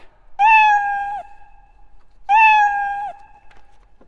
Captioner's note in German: miauert